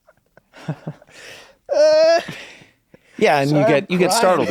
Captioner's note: laughs; screams